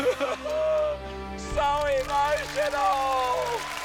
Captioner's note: shouts; sobs; applause